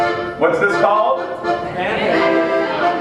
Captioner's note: laughter